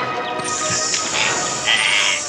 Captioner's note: running water sound